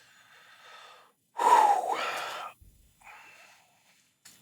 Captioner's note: Dean sighs